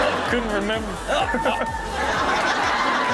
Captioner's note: audience laughing; grunting; audience laughing